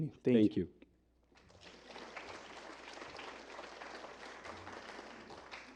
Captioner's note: applause